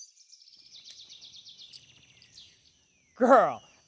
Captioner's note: birds chirping